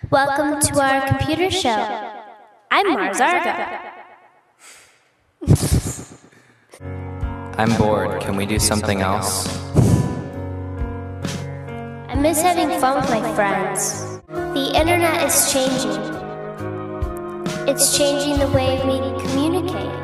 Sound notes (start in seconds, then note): 5.4 laughter